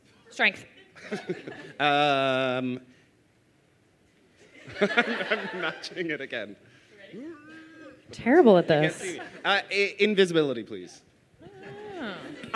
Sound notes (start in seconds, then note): 0.9 laughs